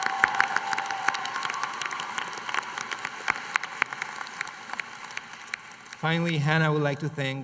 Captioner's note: applause